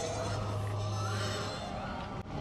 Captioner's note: T-1000 screaming